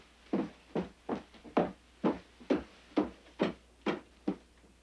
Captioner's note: footsteps clomping